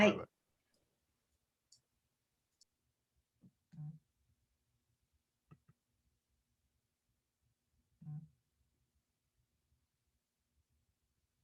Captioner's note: silence